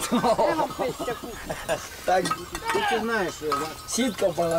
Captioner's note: man speaking native language